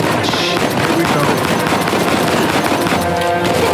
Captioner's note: rapid gunfire